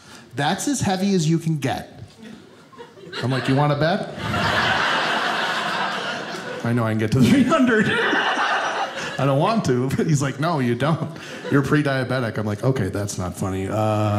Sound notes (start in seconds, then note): 2.2 audience laughing